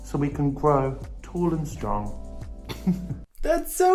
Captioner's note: chuckles